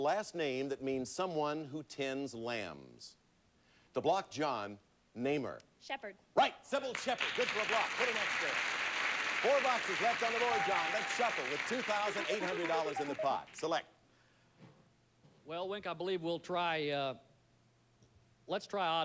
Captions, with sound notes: has a last name that means someone who tends lambs. To block John, name her. Shepherd. Right. Cybill Shepherd. Good for a block. Put an X there. [audience applauding] Four boxes left on the Board, John. Let's shuffle with $2,800 in the pot. Select. Well, Wink, I believe we'll try...